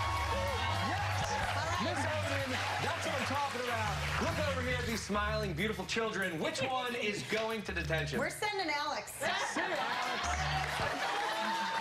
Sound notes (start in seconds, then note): 3.8 cheers and applause